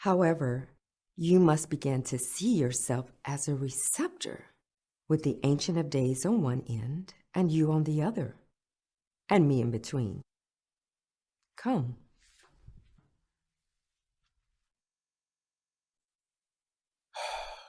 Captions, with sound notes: However, you must begin to see yourself as a receptor with the Ancient of Days on one end and you on the other and me in between. Come. [Sighs]